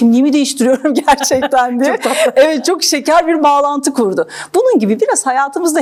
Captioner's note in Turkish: kahkaha